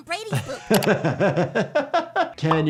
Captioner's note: laughs